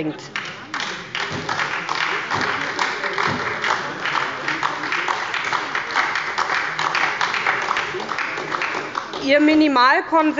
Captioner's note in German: Beifall bei der SPD